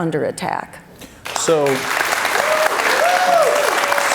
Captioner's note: cheers and applause